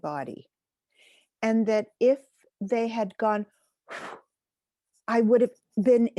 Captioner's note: blows wind